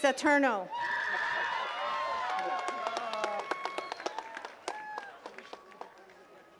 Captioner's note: attendees cheering and clapping